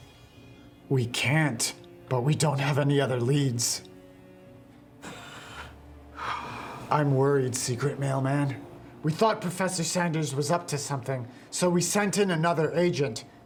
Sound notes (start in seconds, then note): 5.0 sighs